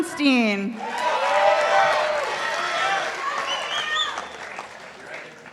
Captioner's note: participants applauding